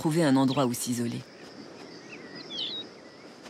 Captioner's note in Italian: cinguettii